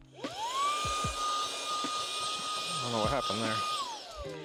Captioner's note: vacuum noises